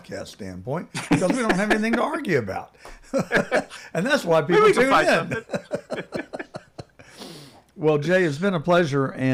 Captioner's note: laughing